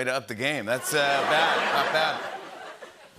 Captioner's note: laughter